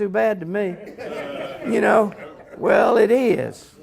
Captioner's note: laughter